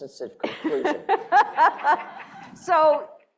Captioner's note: laughing